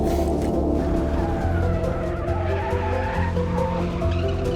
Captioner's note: tires squealing